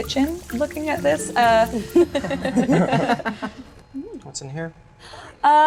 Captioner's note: laughing